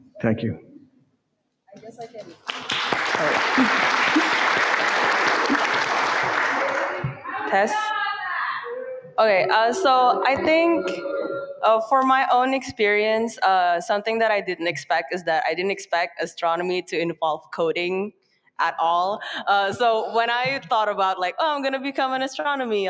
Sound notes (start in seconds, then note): 2.2 audience clapping